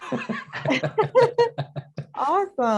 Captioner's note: laughter